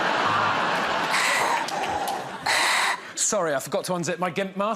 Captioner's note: laughter; breathes heavily